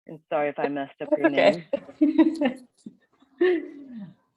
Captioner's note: chuckles